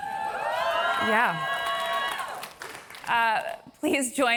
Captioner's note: applause